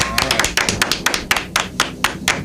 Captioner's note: clapping